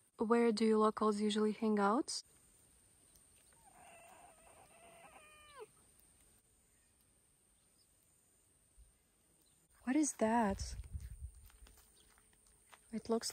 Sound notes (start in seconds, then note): 4.4 meows in Russian